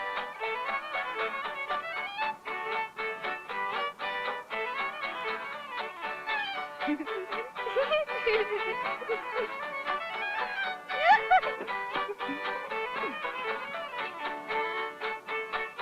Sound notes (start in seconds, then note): 7.6 Judy giggling; 7.9 country music continues